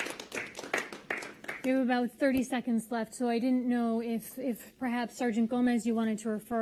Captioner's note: applause